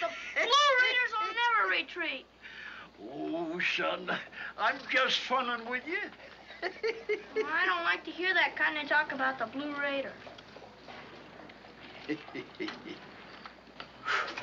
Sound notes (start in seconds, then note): 11.9 chuckles